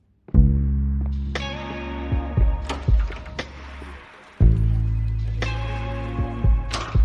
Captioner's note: door opening and closing; footsteps; office sounds